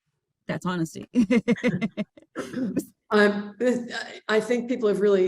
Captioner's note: laughs